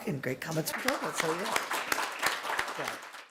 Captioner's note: applause